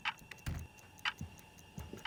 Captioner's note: clock ticking; door shuts